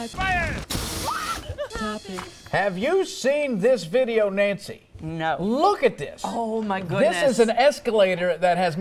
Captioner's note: laughter